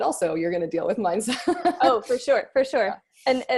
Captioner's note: laughs